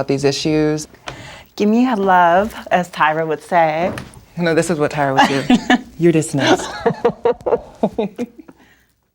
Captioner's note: laughter